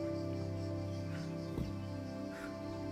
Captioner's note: Germano hardly breathing